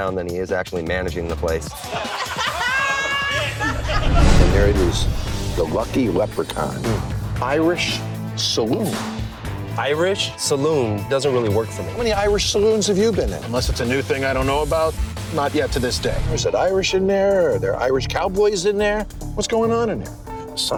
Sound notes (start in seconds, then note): 1.8 laughing